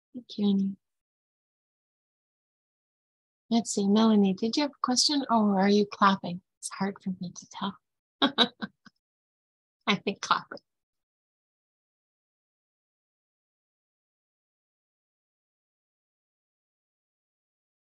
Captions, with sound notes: Thank you. Let's see, Melanie, did you have a question? Oh, are you clapping? It's hard for me to tell. (laughs) I think clapping.